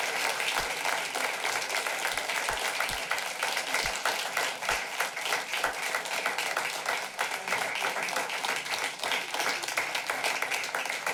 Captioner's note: clapping